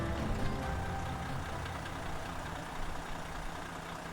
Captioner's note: engine running